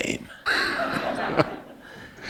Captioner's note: laugher